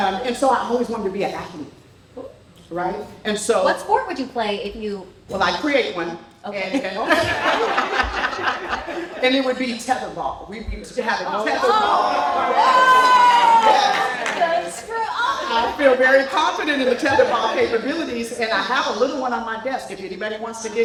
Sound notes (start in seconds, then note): 6.8 laughter